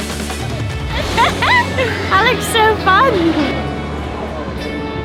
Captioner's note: laughs